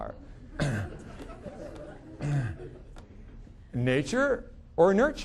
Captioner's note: audience laughing